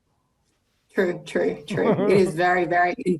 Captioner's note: giggles